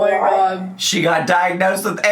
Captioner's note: laughs